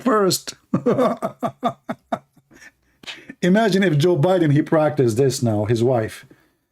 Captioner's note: Ketawa